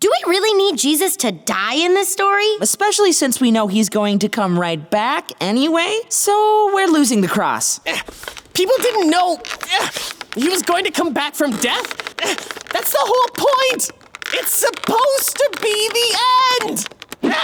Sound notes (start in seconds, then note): 10.0 grunts